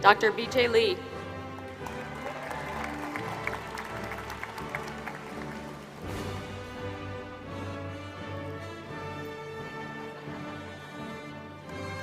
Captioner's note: applause